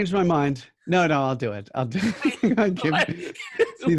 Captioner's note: laughing